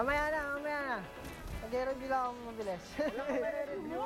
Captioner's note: laughs